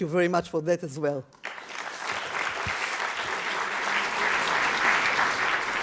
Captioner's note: audience applause